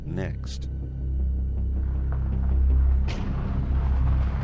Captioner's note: helicopter whirring